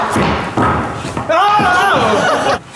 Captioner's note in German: Schrei